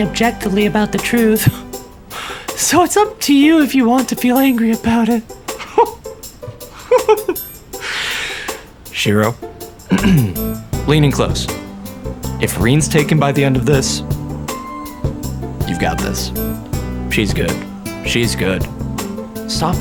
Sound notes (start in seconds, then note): 6.7 laughter; 9.9 clears throat